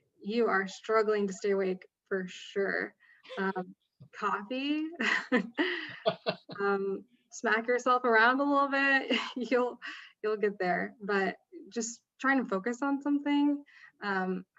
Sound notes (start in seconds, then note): 5.0 chuckling